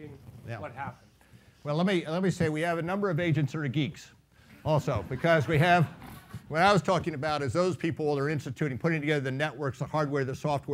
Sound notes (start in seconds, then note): 4.9 laughing